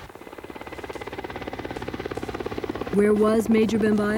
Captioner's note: helicopter whirrling